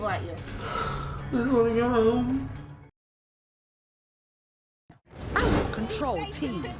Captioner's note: sniffling